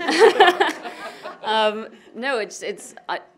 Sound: chuckles

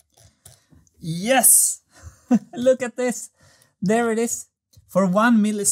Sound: chuckles

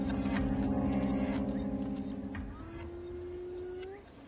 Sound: hyena whines

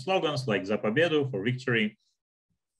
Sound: speaking in Russian

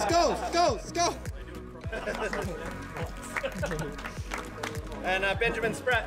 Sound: laughter

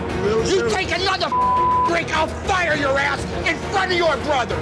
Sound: beep

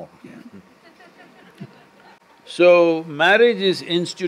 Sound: few laugh

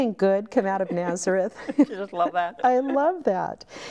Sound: laughing

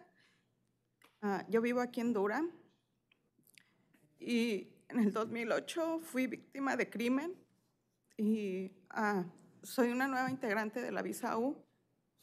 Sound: speaking spanish

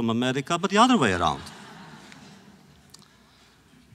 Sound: laughter

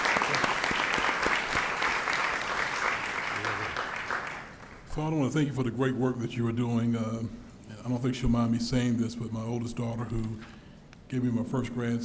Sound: applause

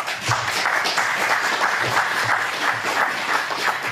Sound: audience clapping

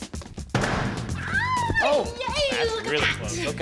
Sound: squealing in delight

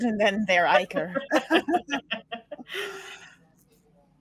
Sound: all laugh

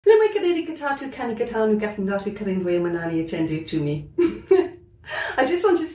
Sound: laughing

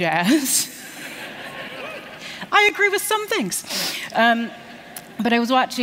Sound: laughter

